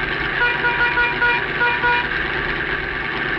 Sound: honking

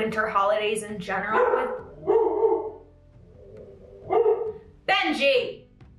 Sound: Benji barking

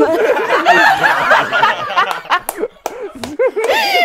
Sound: people laughing

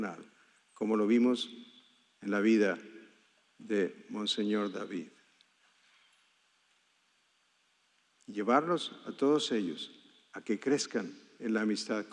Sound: speaking spanish

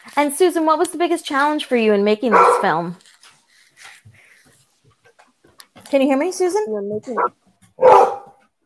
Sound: bark

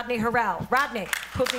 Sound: applause

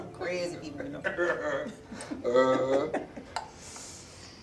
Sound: all laughing

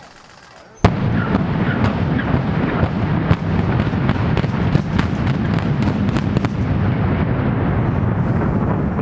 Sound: implosion noises

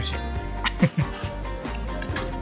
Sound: laugh

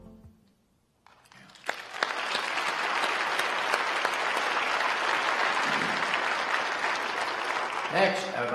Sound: applause

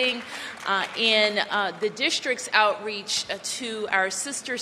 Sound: applause

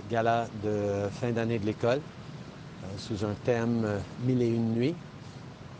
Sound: speaking in French

